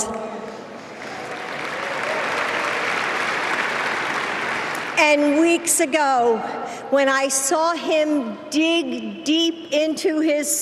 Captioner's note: applause